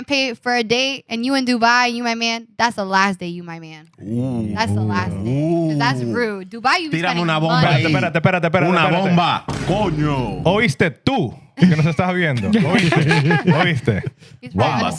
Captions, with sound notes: pay for a date and you in Dubai, you my man, that's the last day you, my man. Ooh. That's rude. Dubai you spending money. (Speaking In Foreign Language) Oh, he's dead too. (Speaking In Foreign Language) (Laughing) He's probably been